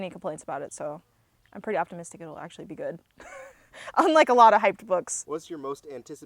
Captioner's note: laughs